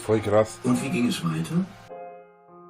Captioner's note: audio book: And how did it continue?